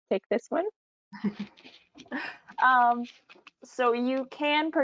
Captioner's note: chuckles